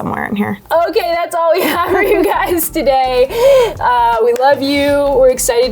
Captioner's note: laughing